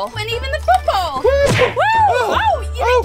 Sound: cartoon thunk

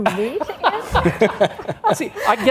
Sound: all laughs

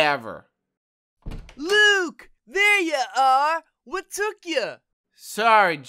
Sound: door opening

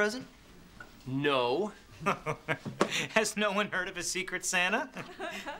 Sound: chuckles

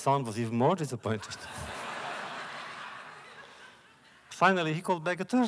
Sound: laughter

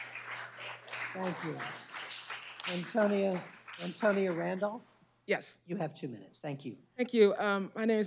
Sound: cheers and applause

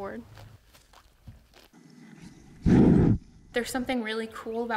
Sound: snorting

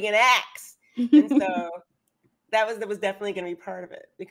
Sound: laughs

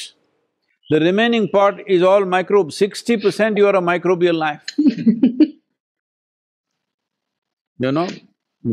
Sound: laughs

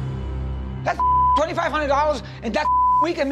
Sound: beep

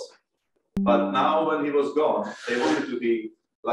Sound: computer chimes

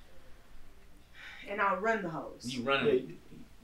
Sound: sighs

